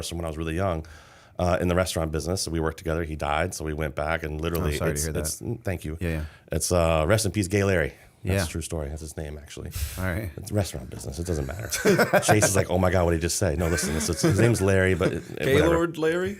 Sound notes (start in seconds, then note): 11.6 laughter